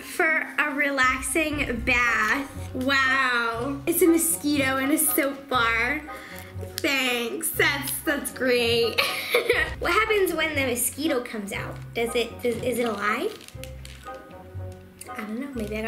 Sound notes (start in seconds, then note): 9.2 laughs